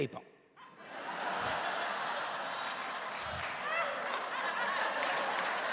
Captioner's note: laughing and cheering